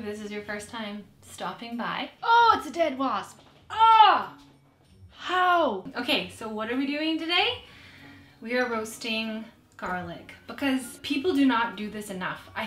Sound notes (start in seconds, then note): 3.6 yells